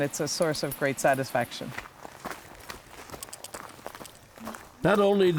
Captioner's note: footsteps on gravel